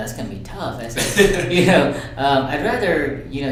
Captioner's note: laughs